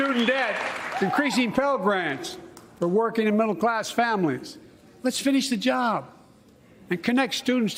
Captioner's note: cheers and applause